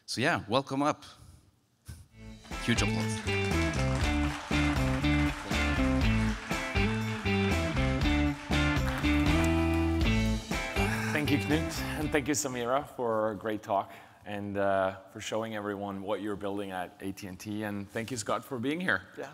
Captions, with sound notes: So yeah, welcome up, huge applause. (upbeat music) (audience applauding) - Thank you, Clint, and thank you, Samira for a great talk, and for showing everyone what you're building at AT&T and thank you, Scott for being here.